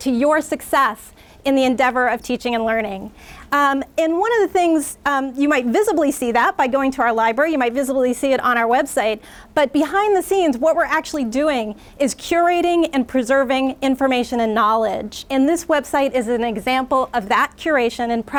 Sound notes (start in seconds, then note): none